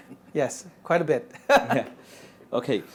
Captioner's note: laughs